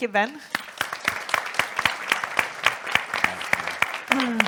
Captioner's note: audience applauds